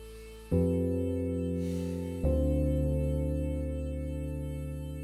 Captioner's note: Quinn sighs